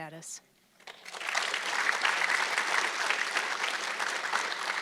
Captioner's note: audience clapping